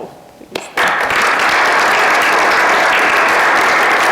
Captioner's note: applause